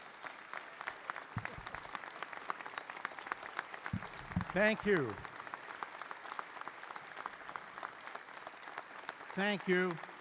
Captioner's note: applause